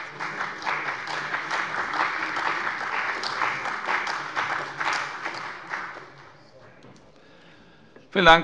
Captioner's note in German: Beifall bei dem BÜNDNIS 90/DIE GRÜNEN und der CDU